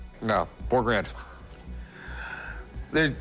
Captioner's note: sighs